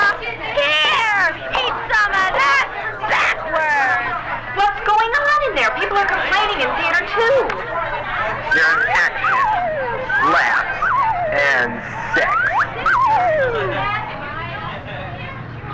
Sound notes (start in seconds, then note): 8.8 man On PA